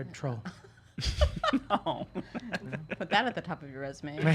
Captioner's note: laughing